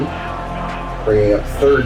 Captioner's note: crowd Noises